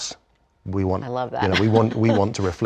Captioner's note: laugh